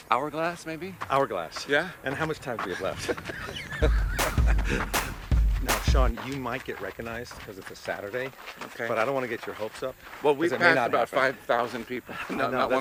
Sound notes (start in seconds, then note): 2.5 both laugh